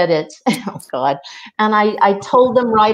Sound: chuckles

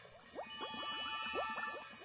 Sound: tinkling, bubbling

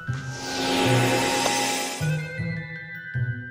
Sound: chiming

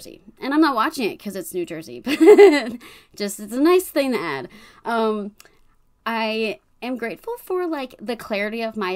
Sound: laughs

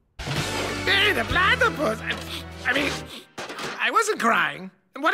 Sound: sniffs

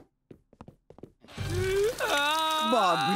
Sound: crying

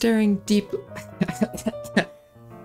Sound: coughing fit

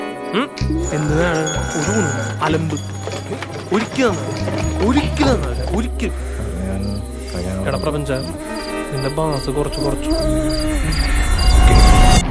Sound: blabbering

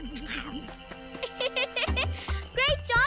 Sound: laughs

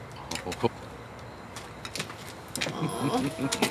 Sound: Obama chuckles

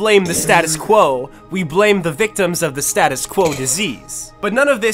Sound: slowed coughing

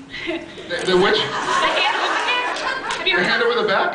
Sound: laughs

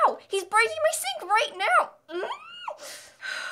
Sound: scream; angry exhale

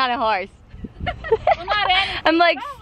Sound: laughs

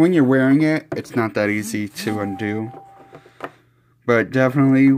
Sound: phone notification chime and vibration in background

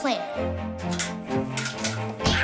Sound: clicking

